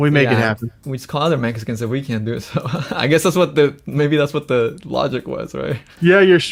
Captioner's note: laughs